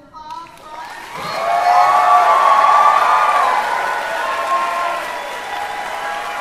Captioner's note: applause, cheering